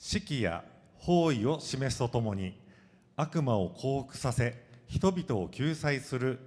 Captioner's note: speaking foreign language